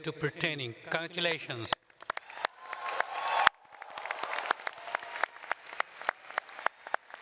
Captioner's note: audience cheers and applauds